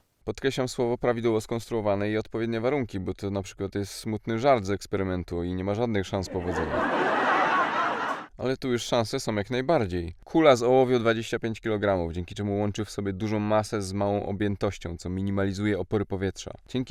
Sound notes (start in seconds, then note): 6.2 laugh track